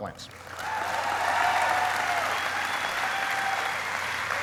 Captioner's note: applauding